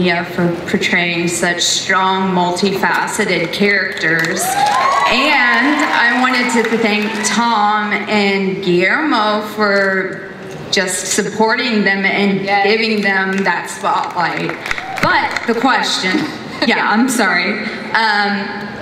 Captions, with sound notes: for portraying such strong, multi-faceted characters. (audience cheers) And I wanted to thank Tom and Guillermo for just supporting them and giving them that spotlight. But the question, yeah, I'm sorry.